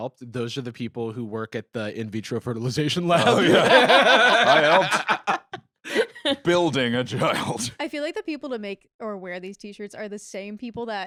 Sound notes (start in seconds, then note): 3.1 laugh